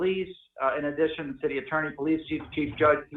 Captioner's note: distortion